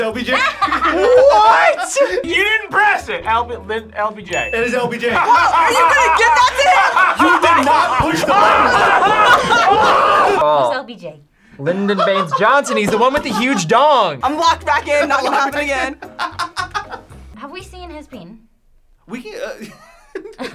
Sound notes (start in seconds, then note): 8.6 laughs maniacally; 19.5 laughs